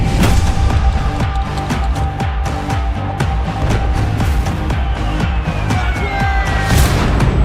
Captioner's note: clap